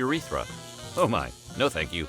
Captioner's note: electrical sounds